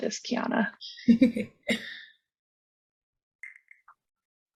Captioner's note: laughs